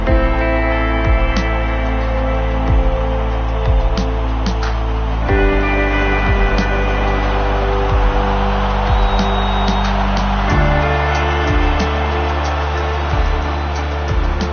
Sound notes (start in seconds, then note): 0.0 slow music playing; 8.8 whistle blows